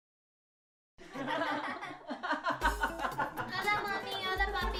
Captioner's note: group laughter